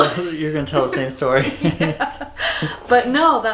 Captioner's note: laughter